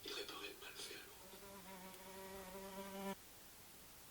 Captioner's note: buzzing